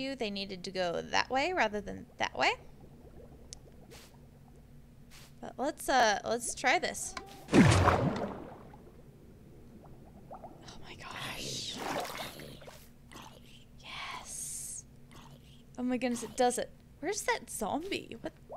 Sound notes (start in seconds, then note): 7.4 water rushes